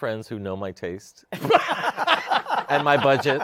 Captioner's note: laughter